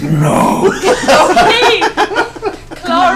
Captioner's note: all laugh